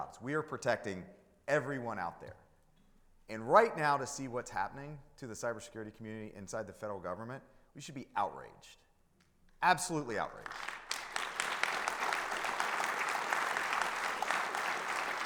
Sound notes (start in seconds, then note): 10.4 audience applauding